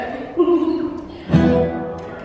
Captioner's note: laughing